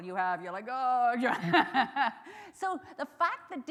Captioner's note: chuckles